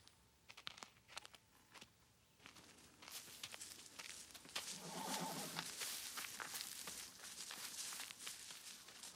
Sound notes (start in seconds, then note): 4.7 horse whinnies